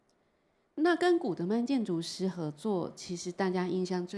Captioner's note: Mandarin